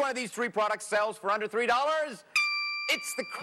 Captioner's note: dings